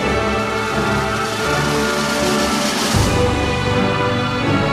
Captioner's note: audience cheering